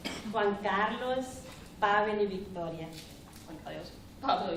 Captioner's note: speaking spanish